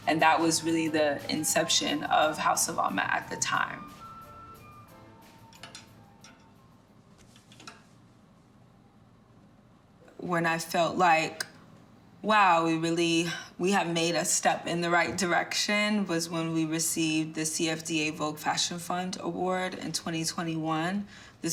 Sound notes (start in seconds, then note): 4.3 lively music; 5.4 hangers rattling